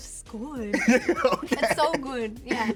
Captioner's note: laughs